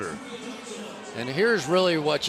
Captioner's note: pa announcement